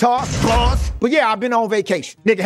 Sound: bars slamming

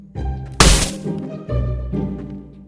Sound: smash

